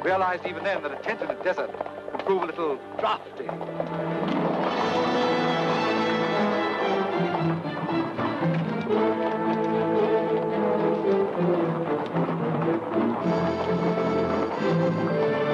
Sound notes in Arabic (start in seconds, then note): 4.1 ضربات حوافر; 4.1 موسيقى درامية